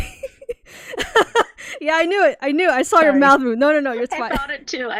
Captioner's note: laughs